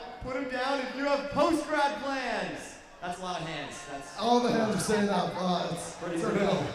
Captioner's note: cheers